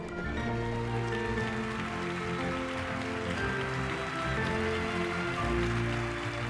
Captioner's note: cheers, applause